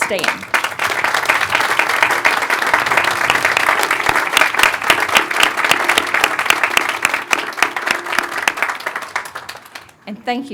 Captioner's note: applause